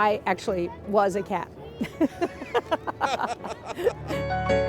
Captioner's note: laughter